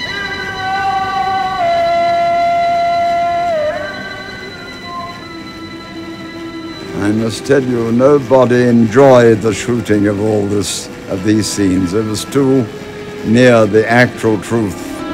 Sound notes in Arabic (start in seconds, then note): 0.7 رجل يردد بلغة أجنبية; 14.9 موسيقى حزينة